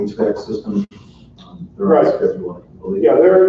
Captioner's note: overlapping chatter